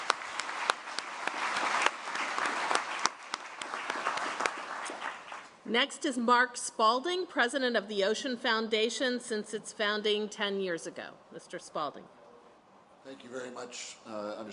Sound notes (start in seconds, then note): 0.0 applause